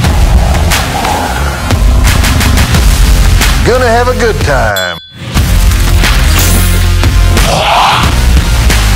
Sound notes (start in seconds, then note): 4.7 glasses clinking